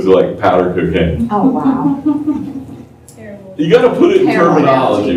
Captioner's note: laughter